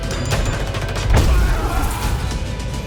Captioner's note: soldier grunts